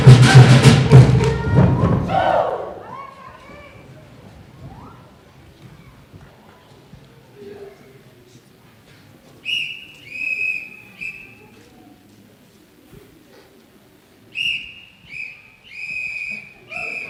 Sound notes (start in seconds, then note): 9.4 whistle